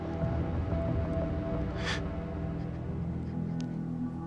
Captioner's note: cries